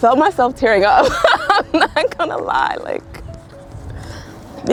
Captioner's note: laughing